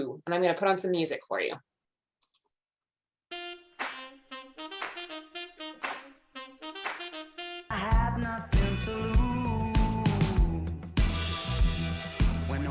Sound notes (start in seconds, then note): 2.2 mouse clicks